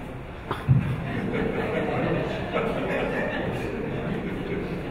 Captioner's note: audience laughing